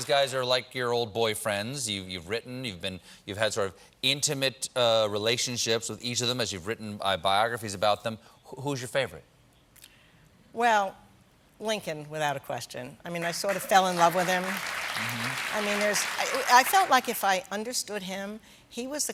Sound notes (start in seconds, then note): 13.2 applause